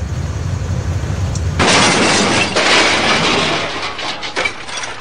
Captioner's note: crashing